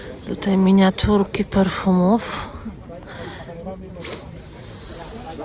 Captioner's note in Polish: wciągnięcie powietrza